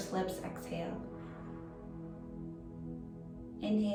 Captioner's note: pursed lips breathing